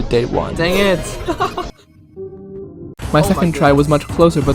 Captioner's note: laughing